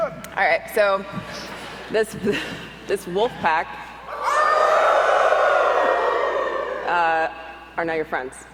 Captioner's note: audience howls